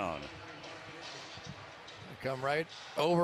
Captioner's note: pa announcement